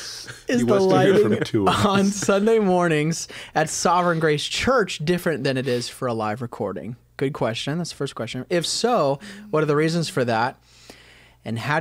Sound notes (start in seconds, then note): 3.1 laughter